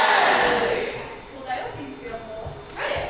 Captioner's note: audience shouts in agreement